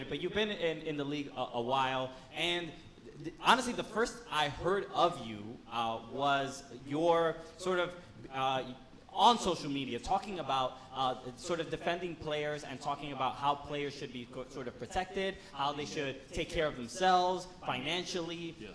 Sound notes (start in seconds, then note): none